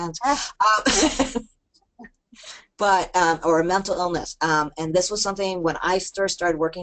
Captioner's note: laughter